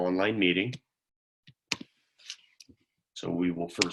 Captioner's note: silence